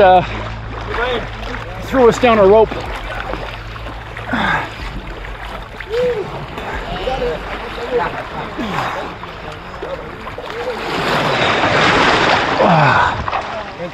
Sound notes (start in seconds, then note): 3.0 water splashing; 4.2 groaning; 8.5 groaning; 11.2 water pouring